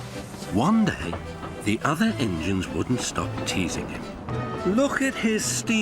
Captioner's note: Sir Handel whistles back; whistles